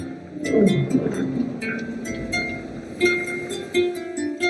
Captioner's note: monster growls